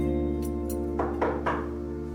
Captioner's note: knock on the door